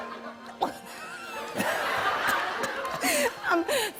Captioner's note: laughter